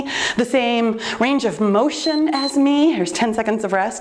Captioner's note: timer beeps